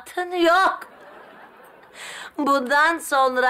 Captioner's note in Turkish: Gülme efekti